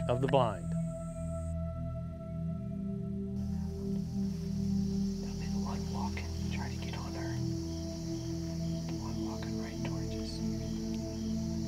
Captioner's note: whispering